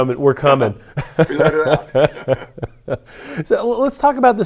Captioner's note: laughter